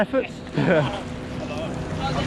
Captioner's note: laughing